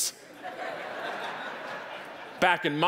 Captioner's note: audience laughing